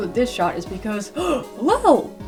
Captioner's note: gasp